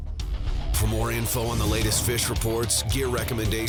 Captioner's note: voiceover